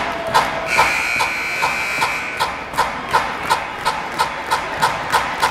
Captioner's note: buzzer blaring